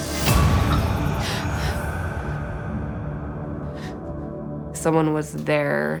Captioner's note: Whitney gasps